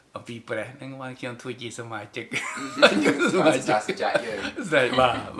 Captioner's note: laughs